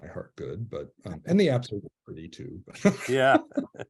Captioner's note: he laughs